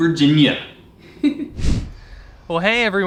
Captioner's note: laughs